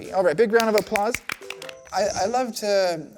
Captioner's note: kids Clapping